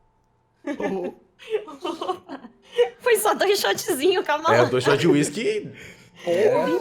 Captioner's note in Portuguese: risos